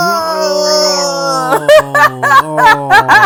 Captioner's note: laughter